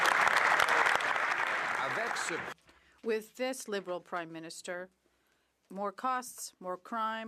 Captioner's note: some Applause